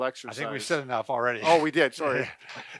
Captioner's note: laughs